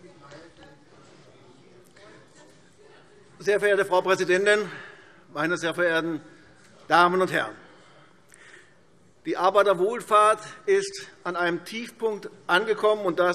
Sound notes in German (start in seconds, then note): none